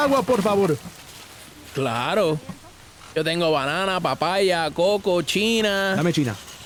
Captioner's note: in Spanish